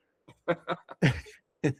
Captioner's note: laughing